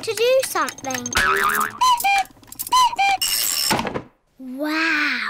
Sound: clock cuckoos

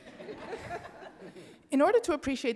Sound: audience laughing

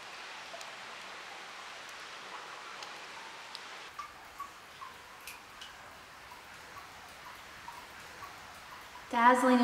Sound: dripping and flowing water

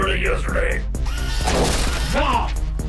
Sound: Luna whirs; blow thumps

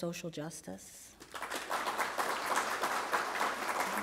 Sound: applause

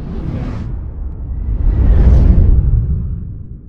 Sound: building music; swoosh sound

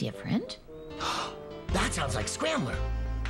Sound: gasp!

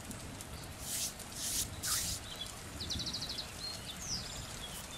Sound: hands rubbing

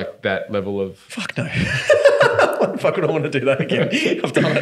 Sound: laughing

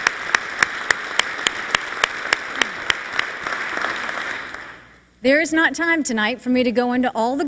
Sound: applause

